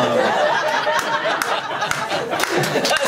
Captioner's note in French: rires et applaus public